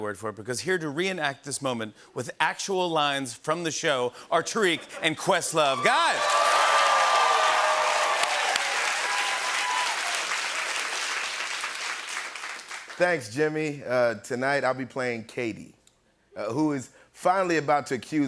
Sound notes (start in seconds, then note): 5.6 cheers and applause